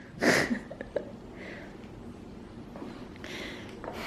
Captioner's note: laughing